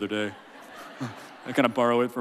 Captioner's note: laughing